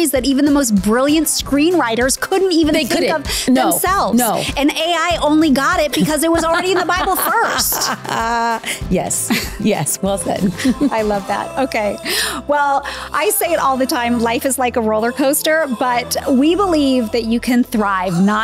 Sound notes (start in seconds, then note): 5.8 laughs